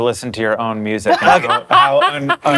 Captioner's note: laughter